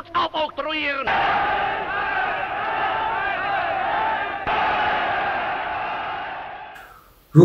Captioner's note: cheers